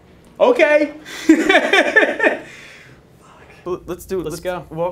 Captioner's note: laughing